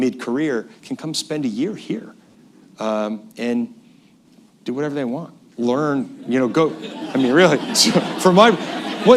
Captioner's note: laughter